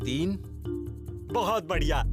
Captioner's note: speaking in foreign language